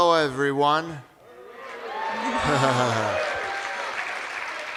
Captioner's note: cheers and applause